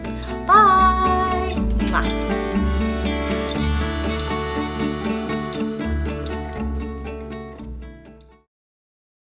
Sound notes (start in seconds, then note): 1.0 kiss; 4.0 light music